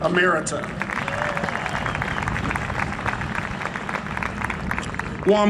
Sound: cheering and Applause

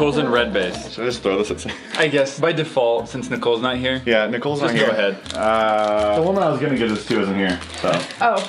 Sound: giggles

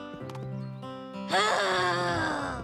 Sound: groaning

